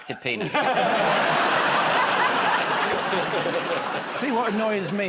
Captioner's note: laughter